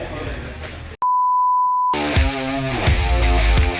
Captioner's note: beep; rock music